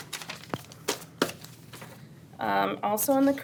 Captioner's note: papers rustle